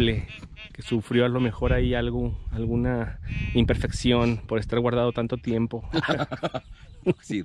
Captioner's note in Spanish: risas de los dos